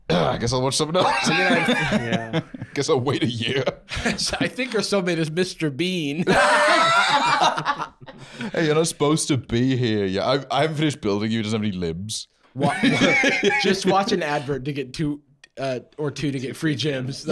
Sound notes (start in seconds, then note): 6.2 both laughing; 12.6 laughing